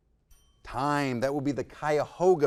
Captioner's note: timer dings